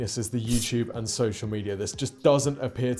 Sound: sword scrapes

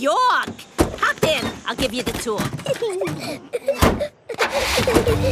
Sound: Peppa and George laughing

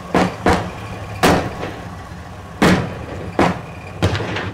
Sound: gunshots; engine roars

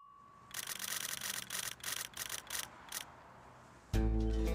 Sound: timer dings; numbers click; light rock music

